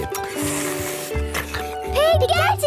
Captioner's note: slurping